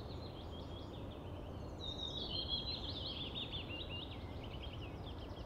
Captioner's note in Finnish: lintujen laulua ja luonnon ääniä